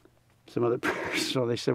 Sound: laughs

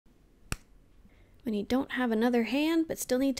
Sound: slap

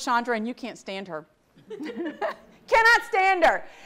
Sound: audience laughs

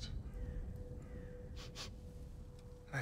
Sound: sniff

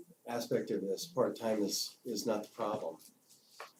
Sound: none

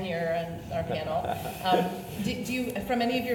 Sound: laughs

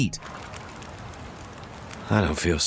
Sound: fire crackling

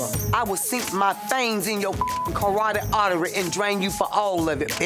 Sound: beep

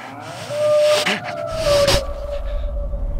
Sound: howl again

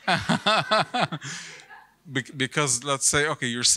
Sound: person laughing

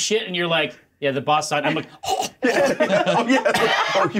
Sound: choking

